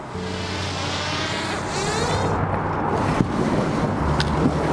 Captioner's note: drone sounds